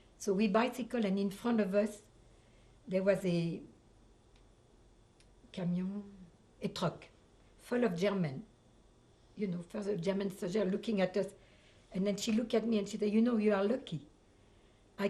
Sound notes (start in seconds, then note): 5.4 french